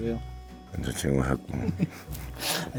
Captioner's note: haha